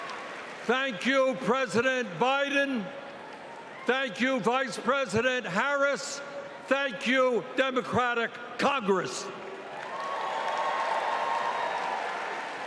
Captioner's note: cheering